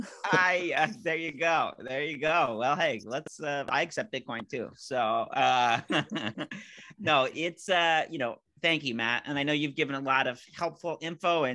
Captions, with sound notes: - There you go. There you go. Well, hey let's, I accept Bitcoin too. (laughing) So, no it's, thank you Matt. And I know you've given a lot of helpful info,